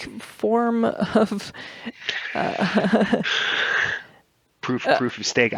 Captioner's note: laughs